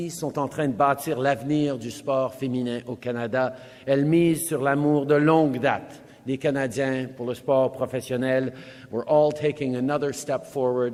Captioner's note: speaks French